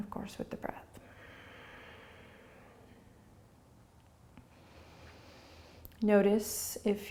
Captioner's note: breathing